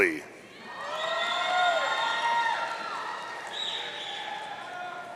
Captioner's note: audience cheering